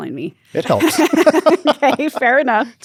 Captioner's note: both laugh